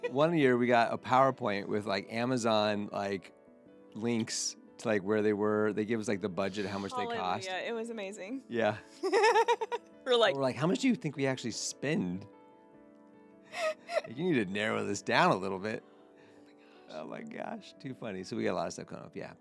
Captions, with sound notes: One year we got a PowerPoint with Amazon links to where they were, they give us the budget, how much they cost. Yeah, it was amazing. Yeah. (laughing) We're like, We're like, "How much do you think we actually spend?" You need to narrow this down a little bit. Oh my gosh, too funny. So we got a lot of stuff coming up.